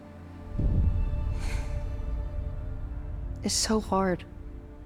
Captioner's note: Mandy exhales loudly